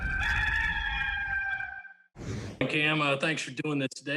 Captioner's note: rooster crowing